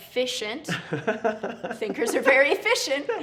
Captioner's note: laughs